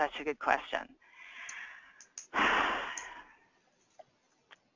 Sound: sighs

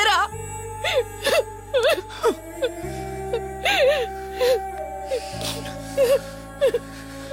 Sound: crying

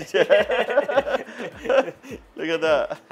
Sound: laughs

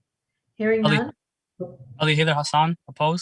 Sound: mumbles

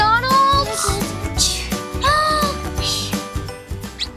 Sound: snores; upbeat playful music; squeak

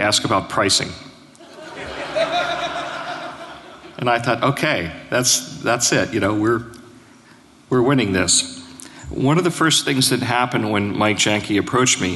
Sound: laughter

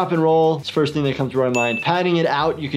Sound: dings

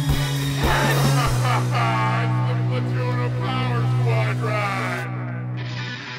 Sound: laughter

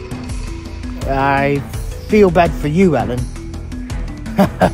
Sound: laughs

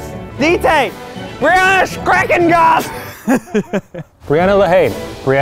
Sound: laughs

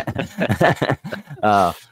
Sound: both laughing

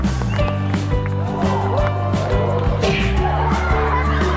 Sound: crowd cheering; crowd laughing

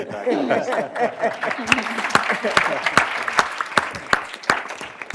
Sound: applause

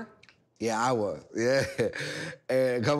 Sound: chuckles

